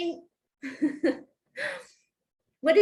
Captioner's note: laughter